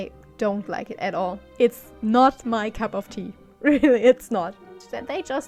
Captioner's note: laughs